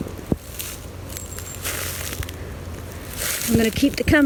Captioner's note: leaves rustling